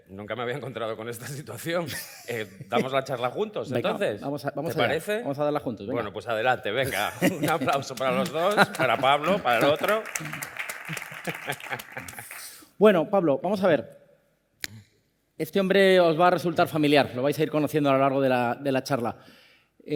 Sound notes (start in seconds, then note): 10.1 applause